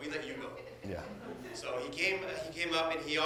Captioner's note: audience laughs